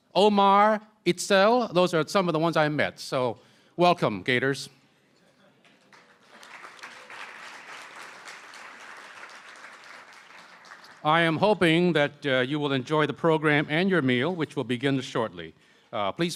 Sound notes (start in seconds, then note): 7.5 applause